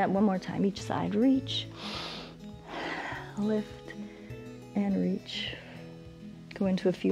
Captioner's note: inhales